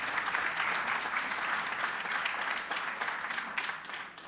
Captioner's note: applause